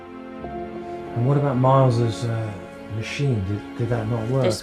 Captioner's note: voiceover